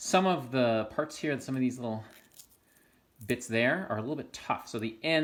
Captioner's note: squeak of separating leaf